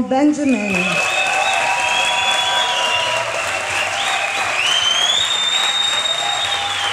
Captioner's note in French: applaudissements, ovation